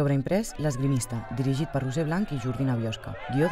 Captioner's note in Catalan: Aclamacions